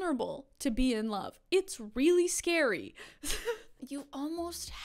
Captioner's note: chuckles